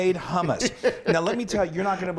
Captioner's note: laughs